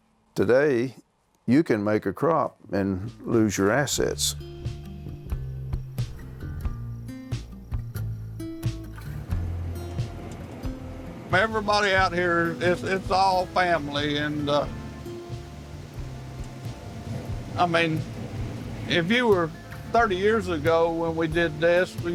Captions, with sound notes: Today, you can make a crop and lose your assets. (gentle ominous music) (tractor engine revving) - Everybody out here, it's all family and, I mean, if you were 30 years ago when we did this